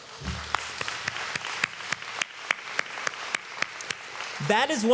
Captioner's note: applause